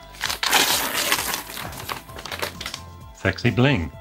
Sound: paper tearing

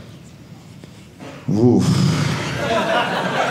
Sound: sigh; audience laughing

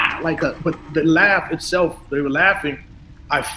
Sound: they were laughing

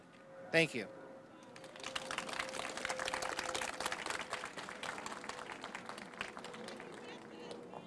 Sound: applause

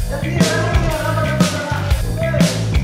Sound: students talking

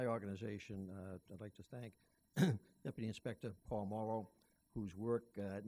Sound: clears throat

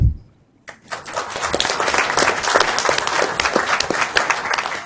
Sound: applause

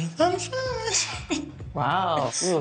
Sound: humming; laughs

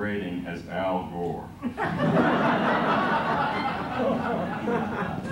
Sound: laughter

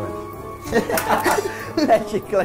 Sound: laughter

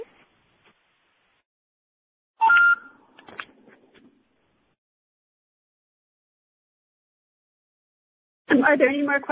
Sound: pause

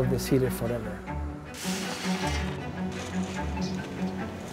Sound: peanuts rattle

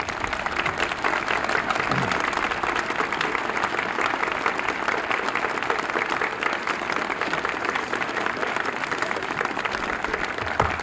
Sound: applause

